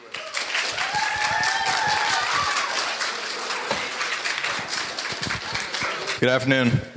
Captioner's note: audience members cheering and applauding